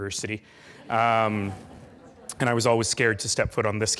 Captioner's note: laughing